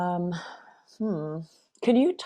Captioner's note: sighs